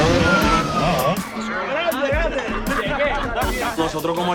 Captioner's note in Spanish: en español